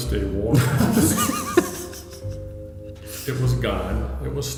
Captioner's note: laughing